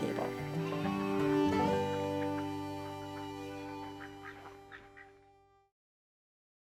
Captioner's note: bright music; chicken clucking